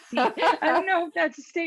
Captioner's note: laughing